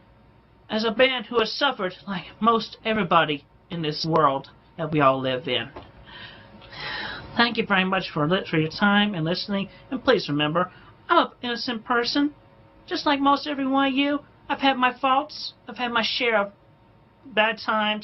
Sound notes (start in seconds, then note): 5.8 sighs